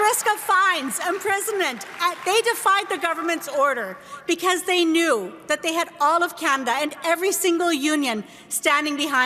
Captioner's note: applause